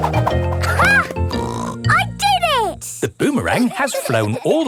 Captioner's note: snorts